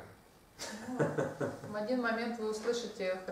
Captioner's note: hahaha